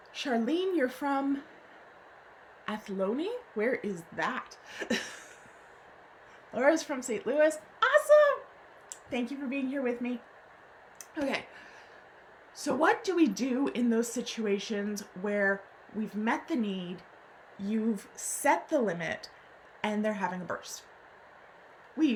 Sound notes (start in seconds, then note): 4.8 laughs